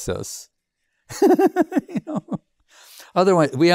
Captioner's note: laughs